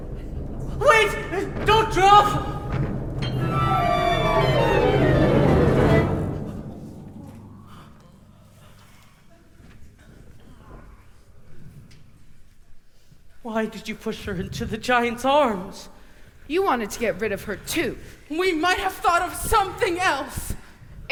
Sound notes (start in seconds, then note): 5.1 a thud